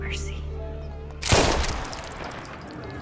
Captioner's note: gunshot